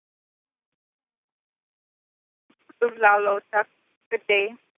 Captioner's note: native language - 2:44